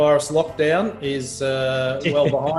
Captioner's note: laughs